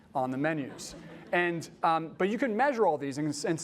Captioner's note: laughter